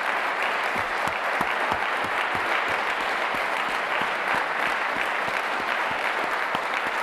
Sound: applause

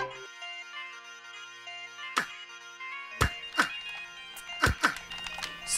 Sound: delicate string music; bagpipe music; characters grunting

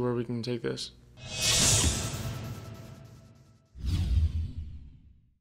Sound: sound effect

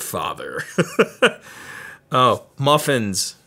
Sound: laughs

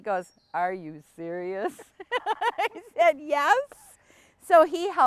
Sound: laughs

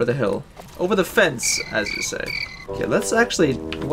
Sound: crickets

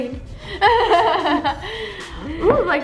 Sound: laughs

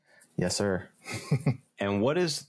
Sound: laughs

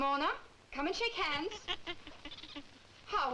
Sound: Ramona chittering

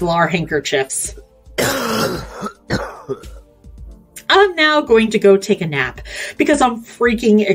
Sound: coughs

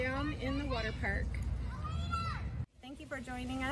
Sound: children playing

